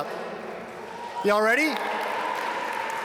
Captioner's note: audience cheer